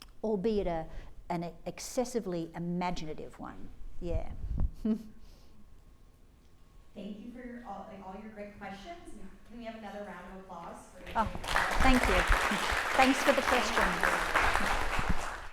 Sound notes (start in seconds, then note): 11.0 applause